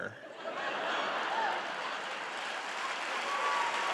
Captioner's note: audience laughing